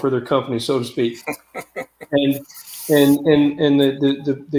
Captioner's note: laughter